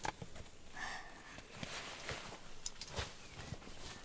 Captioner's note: Lily sighing